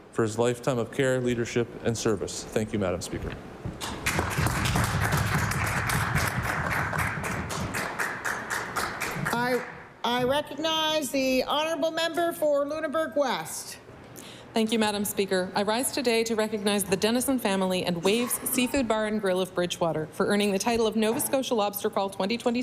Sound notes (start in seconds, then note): 7.2 applause